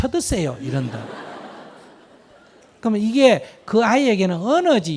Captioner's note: audience Laughter